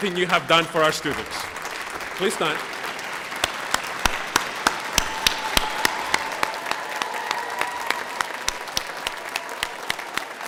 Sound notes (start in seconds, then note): 3.1 applause